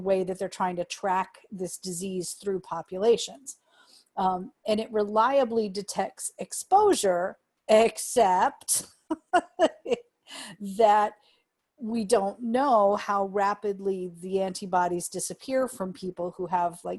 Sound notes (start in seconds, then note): 9.2 laughter